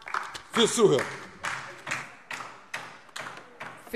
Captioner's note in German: Beifall DIE LINKE